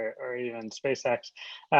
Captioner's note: laughing